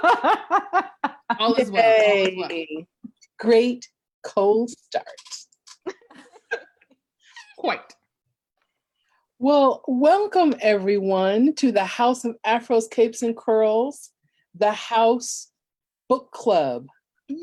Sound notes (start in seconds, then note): 5.8 laugh